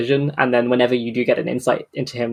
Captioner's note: none